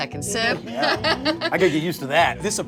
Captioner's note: laughing